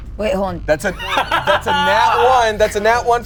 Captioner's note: laughs